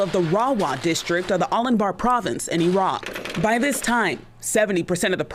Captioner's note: gunshots